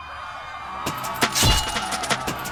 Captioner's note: slash